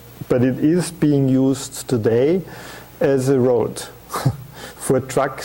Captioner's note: chuckling